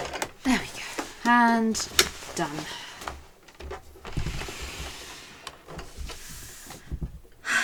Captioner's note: sighs